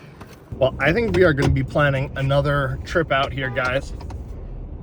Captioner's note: horn honks